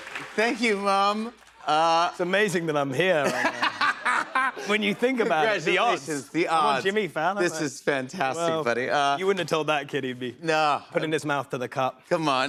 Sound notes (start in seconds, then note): 3.2 laughter